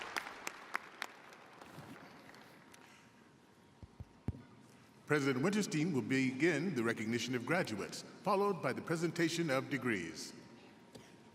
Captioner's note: applause